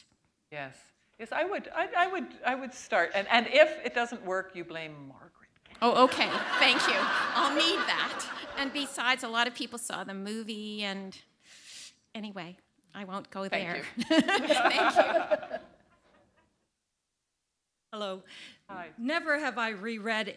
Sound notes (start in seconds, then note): 5.9 laughter; 13.8 laughter